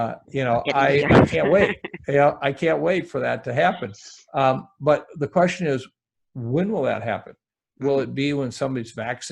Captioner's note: laughs